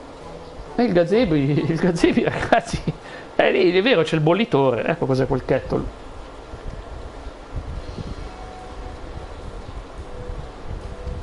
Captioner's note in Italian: risate